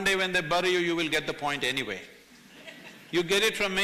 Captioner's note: few laugh